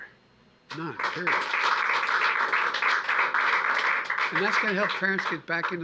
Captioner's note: applause